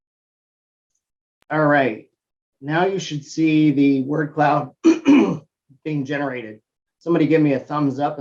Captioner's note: cough